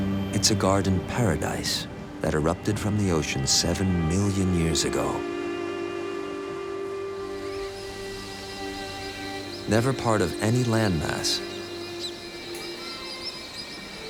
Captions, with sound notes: It's a garden paradise that erupted from the ocean seven million years ago. [birds calling] Never a part of any landmass...